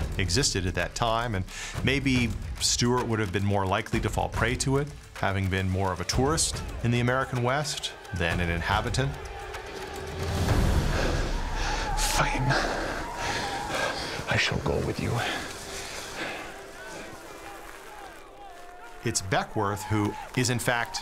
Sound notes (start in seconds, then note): 10.4 tense music; 13.9 stewart with scottish accent; 16.7 tense music